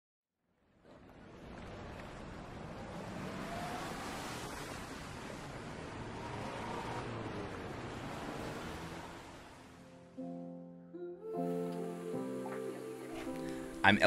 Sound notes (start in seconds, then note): 1.0 city life hustles; 9.7 calm music